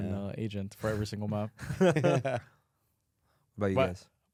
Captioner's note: laughs